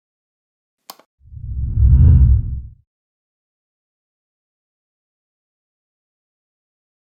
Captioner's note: button clicking; air whooshing